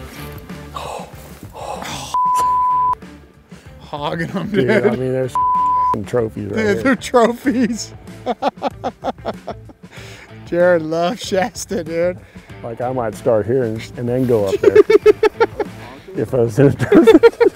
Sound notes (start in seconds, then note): 2.1 beep; 5.3 beep; 8.2 laughs; 14.4 laughs